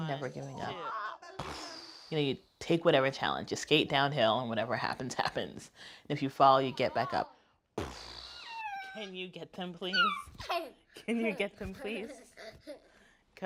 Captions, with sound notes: Never giving up. (hard blowing) You know, you take whatever challenge, just skate downhill, and whatever happens, happens. And if you fall, you get back up. (hard blowing) Can you get some please? (chuckles) (giggles) Can you get some please? (laughter)